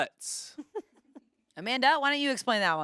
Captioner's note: laughs